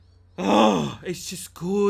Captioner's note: groaning